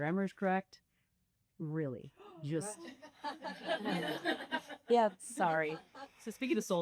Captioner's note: laughter